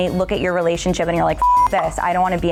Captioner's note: beep